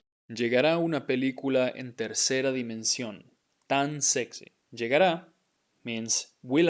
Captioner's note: speaking in Spanish